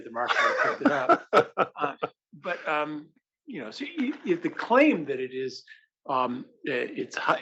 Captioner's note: laugh